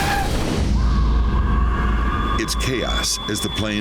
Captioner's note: tires screech